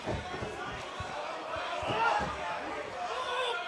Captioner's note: crowd chatter